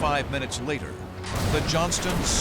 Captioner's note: explosions